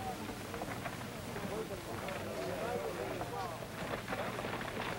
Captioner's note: low taIking